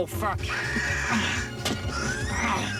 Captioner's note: grunting